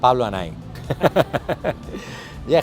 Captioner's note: laughing